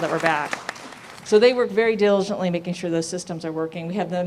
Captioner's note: applause